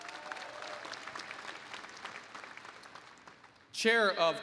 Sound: applause

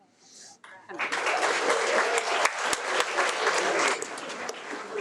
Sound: audience applauds

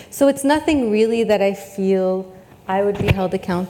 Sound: none

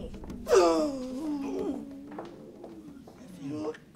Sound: pained exhale

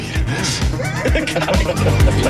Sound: laughing

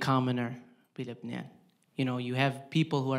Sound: speaking in foreign language

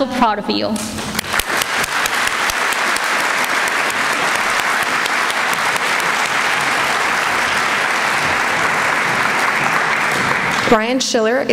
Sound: applause

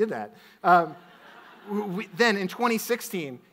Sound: audience laughs

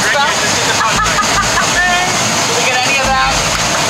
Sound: laughing

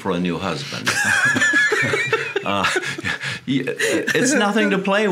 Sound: both laughing

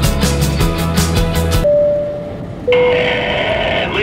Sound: dinging

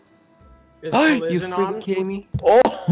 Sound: gasps

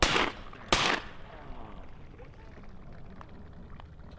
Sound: gunshots

